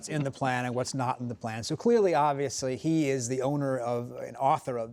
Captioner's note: laughter